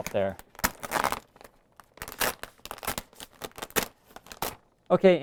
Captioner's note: paper crackling